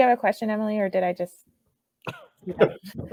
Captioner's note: all laugh